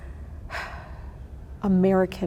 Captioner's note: sighs